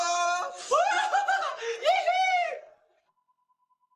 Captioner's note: giggles